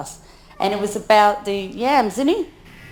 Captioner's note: speaks in foreign language